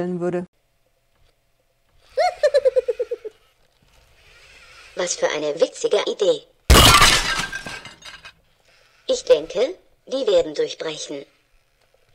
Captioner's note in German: lacht